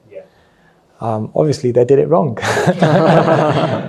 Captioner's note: laughs